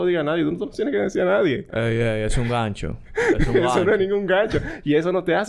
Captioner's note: laughs